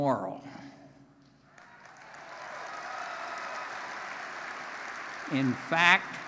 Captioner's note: applause